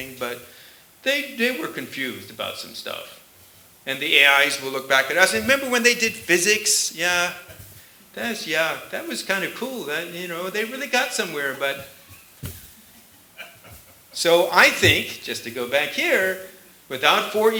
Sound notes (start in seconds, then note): 13.3 laughter